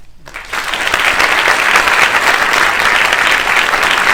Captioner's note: audience applauds